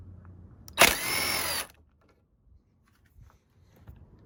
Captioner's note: drill buzzing